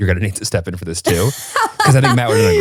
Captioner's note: laughing